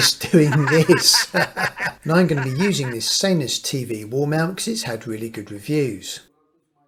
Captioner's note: laughing